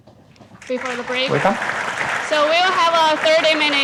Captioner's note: audience clapping